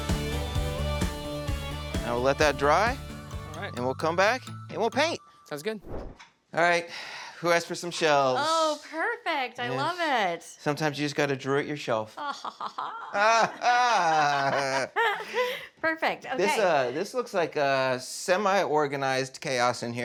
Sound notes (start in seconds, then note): 12.2 laughter; 12.2 laughs